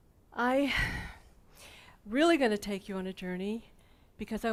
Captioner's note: sighs